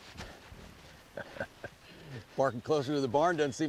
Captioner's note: solomon pants, casey laughs